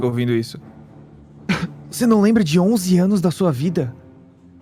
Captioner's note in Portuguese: tosse